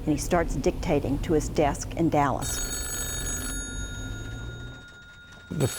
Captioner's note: phone ringing